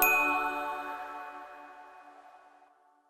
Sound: bell dings

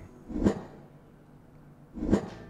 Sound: air whooshing; air whooshing

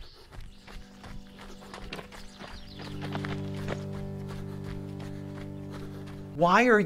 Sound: footsteps crunching gravel; gentle music

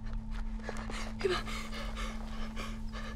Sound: panting

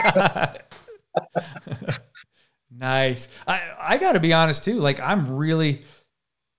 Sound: laughs

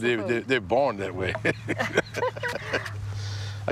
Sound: laughing

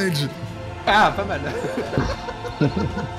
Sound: laughs

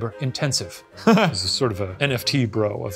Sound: chuckles

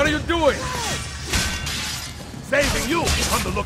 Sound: fighting sounds

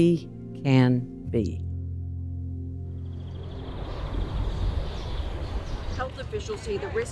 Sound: ambient sounds, overlapping news clips

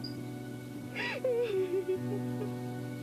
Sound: Rosa crying uncontrollably

